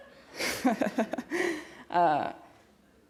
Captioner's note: laughs